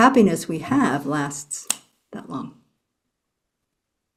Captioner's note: finger snap